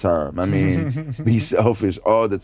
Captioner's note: giggles